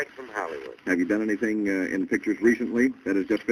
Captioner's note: on phone